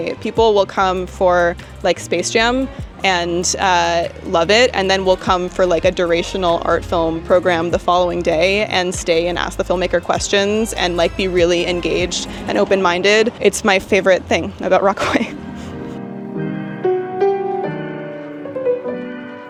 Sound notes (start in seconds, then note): 15.0 chuckles; 16.7 gentle music